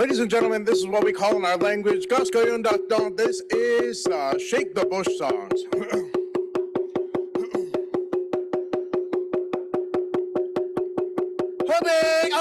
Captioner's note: in Native language